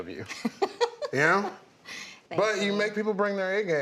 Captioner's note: laughs